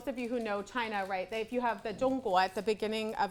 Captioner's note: speaks Chinese